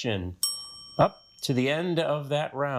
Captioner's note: bell dings